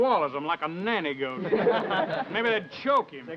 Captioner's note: men chuckling